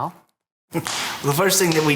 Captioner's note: loud Stomp